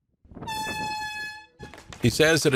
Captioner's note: air horn sounding